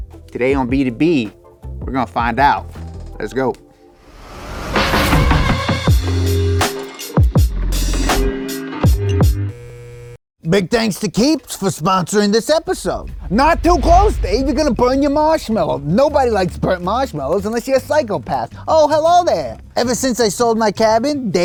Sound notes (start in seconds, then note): 5.1 upbeat music; 9.5 neon lights buzzing